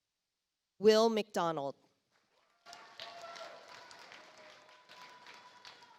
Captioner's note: audience applauds